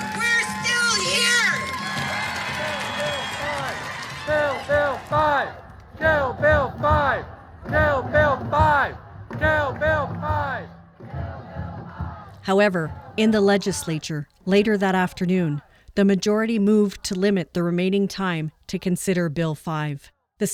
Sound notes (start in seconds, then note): 5.9 cheering